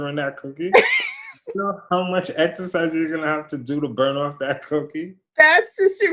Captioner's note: laughter